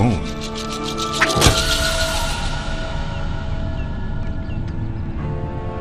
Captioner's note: tomahawk thwacks